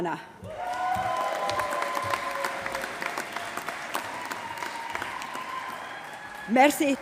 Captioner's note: applause